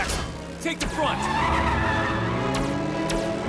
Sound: accelerates

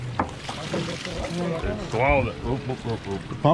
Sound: fish splashing

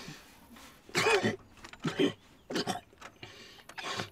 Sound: wet coughing

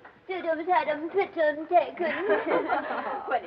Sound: baby-talk

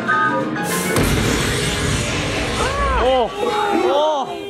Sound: train exploding

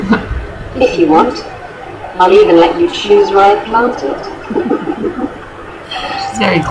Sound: chuckles

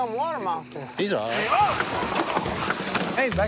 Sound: screaming

